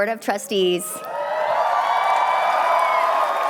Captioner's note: cheering